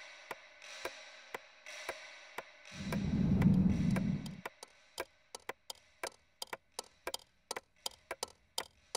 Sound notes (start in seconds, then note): 3.4 clock ticking